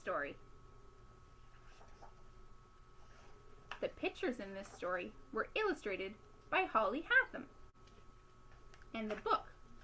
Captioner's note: opening book